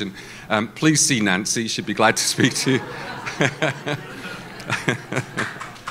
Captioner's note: laughs